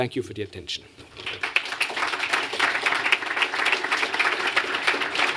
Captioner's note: applause